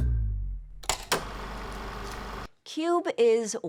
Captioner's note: film reel flapping